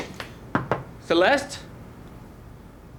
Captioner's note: knocking